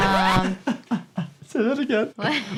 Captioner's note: laughs